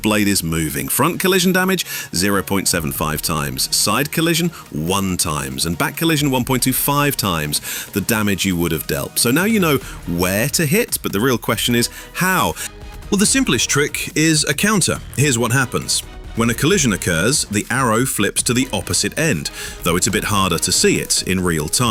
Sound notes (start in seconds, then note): 13.0 confident tone